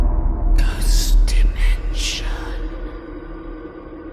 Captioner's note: ghostly Voice